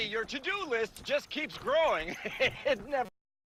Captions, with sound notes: . (laughs desperately) It never stops.